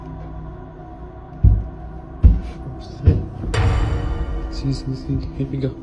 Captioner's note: bangs